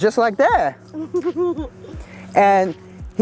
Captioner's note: laughs